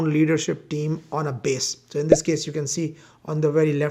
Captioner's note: bubble popping